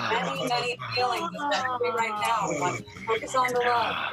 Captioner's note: sighs